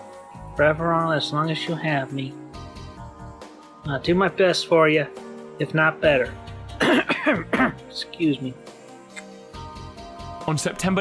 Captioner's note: coughs